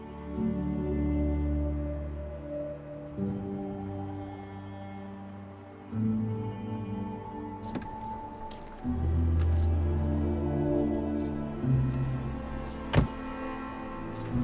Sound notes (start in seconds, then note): 7.6 insects chirping; 12.6 door slamming